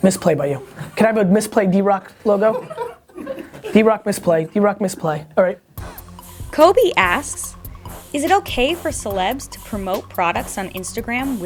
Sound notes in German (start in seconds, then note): 1.9 Lachen; 6.6 Voice-over